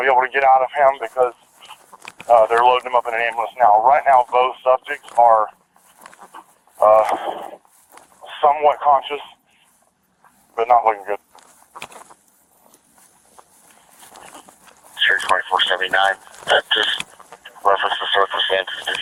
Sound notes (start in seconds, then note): 14.8 radio chatter